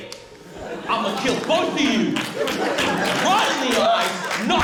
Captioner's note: laughter, applause